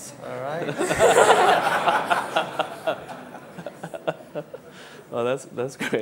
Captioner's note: laughs